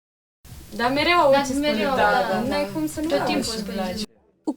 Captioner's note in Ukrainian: Спілкуються румунською